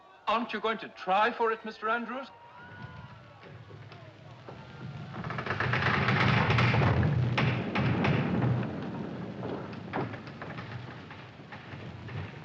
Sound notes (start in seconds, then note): 4.2 Navio Rumbling, Rangendo